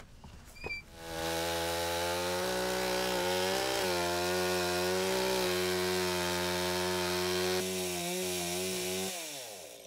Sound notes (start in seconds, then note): 1.8 chainsaw sawing